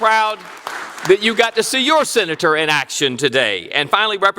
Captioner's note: applause